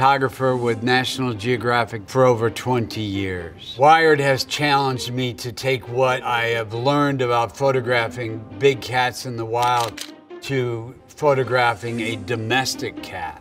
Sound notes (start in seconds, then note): 9.6 camera shutter clicking